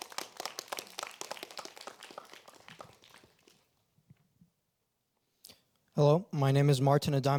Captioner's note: applause